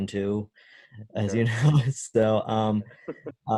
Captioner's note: laughs